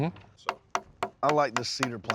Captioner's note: tapping